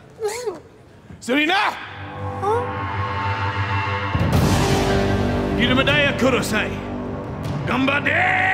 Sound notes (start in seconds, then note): 1.9 with Japanese accent